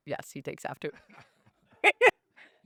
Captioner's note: laughing